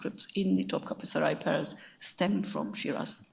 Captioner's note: speaks in a foreign language